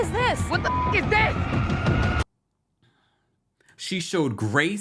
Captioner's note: beeps